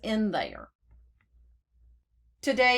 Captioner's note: clicking start to begin recording